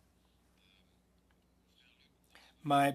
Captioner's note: speaking French